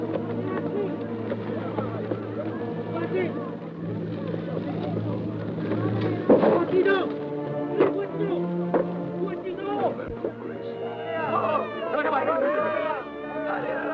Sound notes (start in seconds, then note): 3.3 guerrillas talking excitedly; 10.8 baby cries